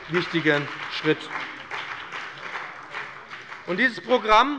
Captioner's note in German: Beifall bei dem BÜNDNIS 90/DIE GRÜNEN und der CDU